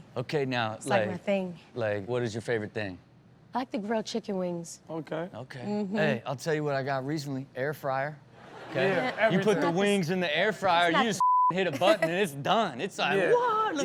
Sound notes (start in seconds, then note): 8.4 audience laughs